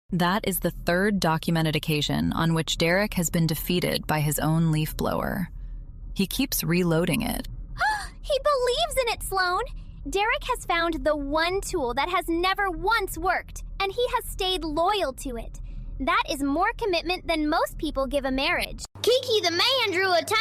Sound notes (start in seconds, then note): 7.8 gasp